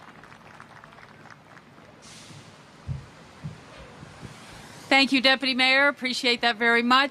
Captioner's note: applause